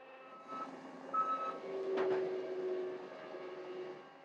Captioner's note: tractor beeping